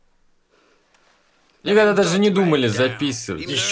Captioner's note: sobbing